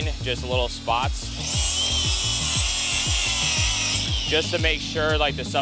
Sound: power tool screeches

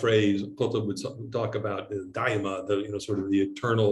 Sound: speaking in Arabic

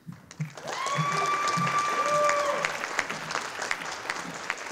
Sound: audience applauding

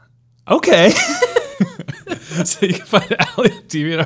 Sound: laughing

